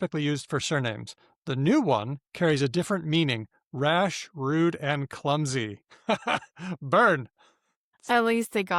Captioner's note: laughs